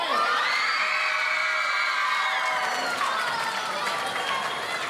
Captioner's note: audience cheering